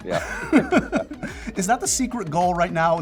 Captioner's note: both laugh